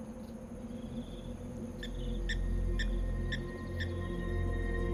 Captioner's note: insects trill; bird chirps